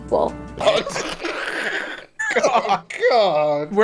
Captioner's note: laughing